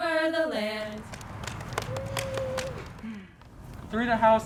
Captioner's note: clapping